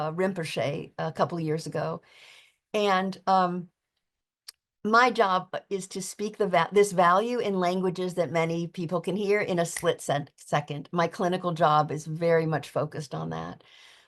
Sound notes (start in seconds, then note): 10.3 fingers snapping